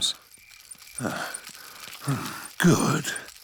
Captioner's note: panting